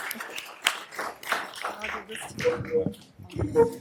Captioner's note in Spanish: vítores y aplausos